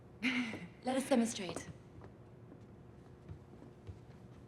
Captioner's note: giggles nervously